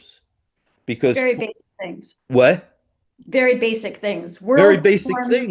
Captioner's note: laughs